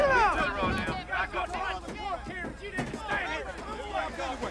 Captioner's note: men arguing